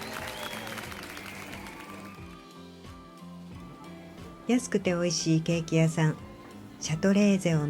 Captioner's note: applause